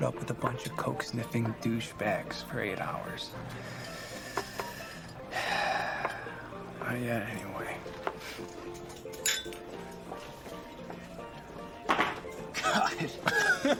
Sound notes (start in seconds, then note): 2.9 sighs; 12.5 laughs